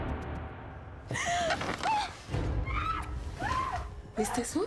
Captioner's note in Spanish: gritos